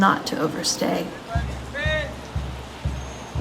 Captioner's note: people chattering; rain pattering; experimental jazz music